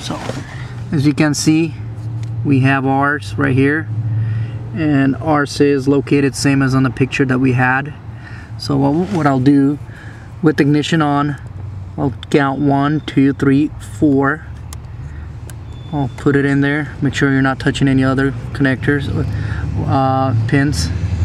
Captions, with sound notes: So, as you can see, we have ours right here, and ours is located same as on the picture that we had, so what I'll do with the ignition on, I'll count one, two, three, four. (clicking) I'll put it in there, make sure you're not touching any other connectors, or pins,